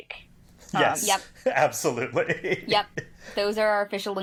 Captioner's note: laughing